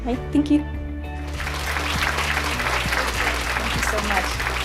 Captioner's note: applause